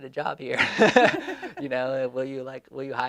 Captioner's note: laughing